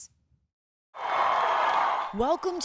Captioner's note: cheering